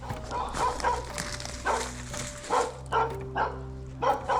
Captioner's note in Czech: psí štěkot